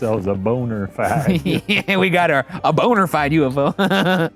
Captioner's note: laughs